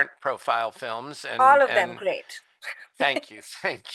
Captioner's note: chuckles